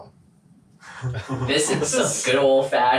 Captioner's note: laughing